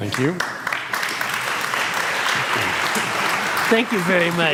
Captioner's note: audience applauds